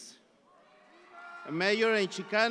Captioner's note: audience applauds